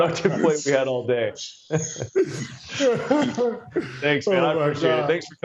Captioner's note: laughter